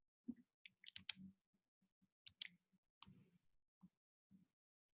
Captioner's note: mouse clicks